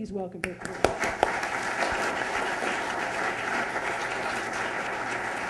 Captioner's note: applause